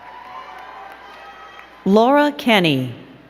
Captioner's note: crowd cheering and clapping